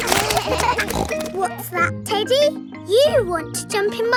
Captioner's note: kids laughing; snorts